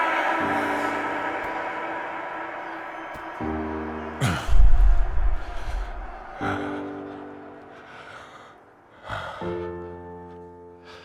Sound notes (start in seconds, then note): 4.2 heavy breathing